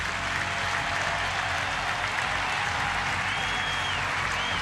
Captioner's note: crowd roaring